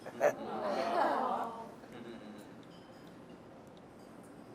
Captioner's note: crowd reacts